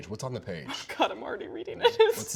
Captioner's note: laughs